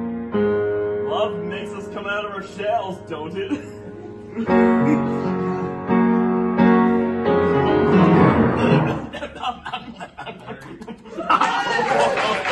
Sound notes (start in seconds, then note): 8.5 laughter and sound effects for fun